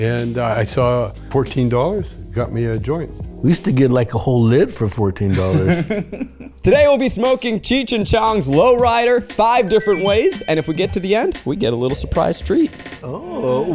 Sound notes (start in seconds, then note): 5.2 laughs; 10.0 icons ding